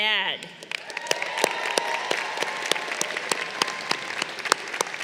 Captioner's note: crowd cheering